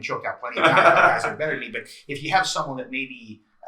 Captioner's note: laughs